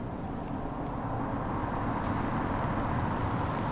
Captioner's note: approaching car